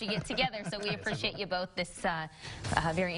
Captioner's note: laughing